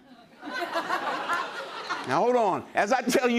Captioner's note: laughter